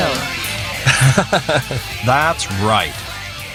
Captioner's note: laughing